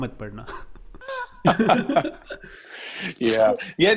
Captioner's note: laughing